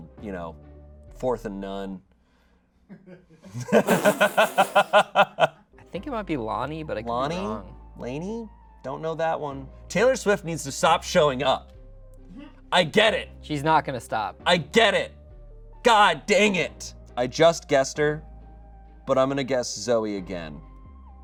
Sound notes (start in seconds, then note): 3.5 audience laughing